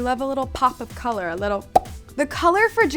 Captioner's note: pops